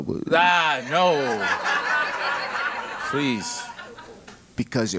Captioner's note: laugh